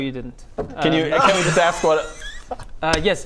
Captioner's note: vindicated laughter